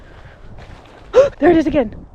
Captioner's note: gasp